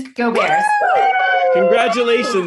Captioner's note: staff cheering